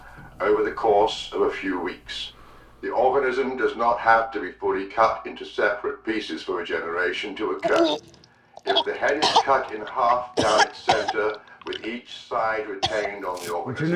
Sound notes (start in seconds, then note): 7.6 vomiting; 8.6 vomiting and coughing